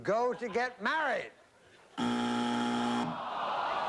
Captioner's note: buzzer